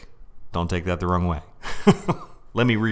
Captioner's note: chuckles